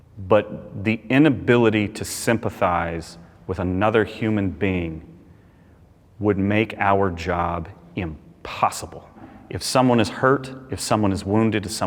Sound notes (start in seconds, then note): none